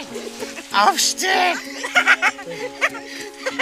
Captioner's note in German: Sie lacht